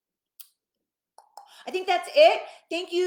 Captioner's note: clicking